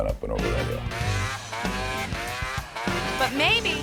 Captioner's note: engine revving